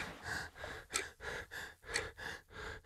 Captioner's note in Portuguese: som de respiração ofegante, coçar de barba, relógio e pingo de gotas